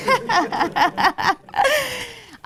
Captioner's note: man speaking faintly off microphone; laughs